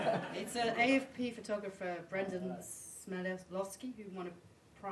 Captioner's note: laughter